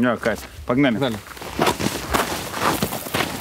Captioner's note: shuffling, footsteps